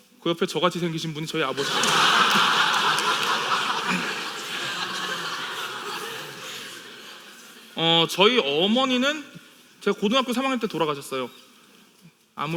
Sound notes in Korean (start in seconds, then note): 1.5 웃음